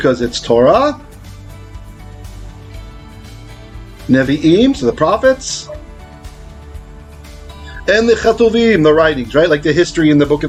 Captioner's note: Hebrew